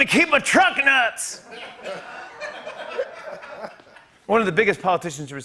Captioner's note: laughter